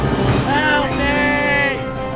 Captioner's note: Tubal yells